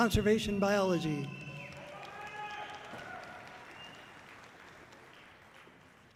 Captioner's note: audience cheering loudly